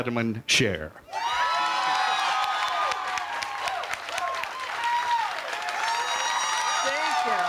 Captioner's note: crowd cheers